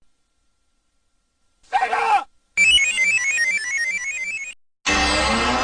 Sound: screaming; 64-bit console startup music; descending video game sounds

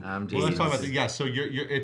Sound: murmurs

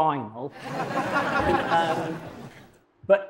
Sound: audience laughing

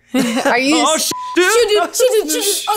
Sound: beep

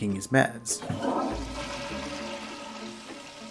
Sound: toilet flushes

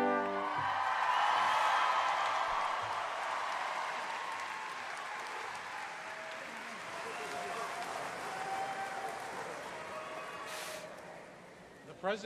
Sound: applause

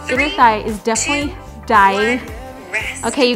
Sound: beeps

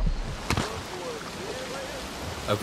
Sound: Crunch

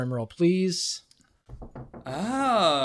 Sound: knocks on table

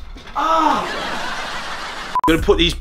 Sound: laughing Track

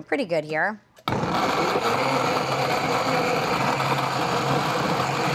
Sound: blender whirring

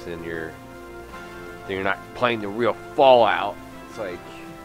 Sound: mockingly

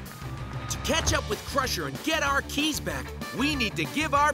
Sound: none

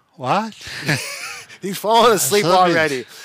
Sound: both laugh

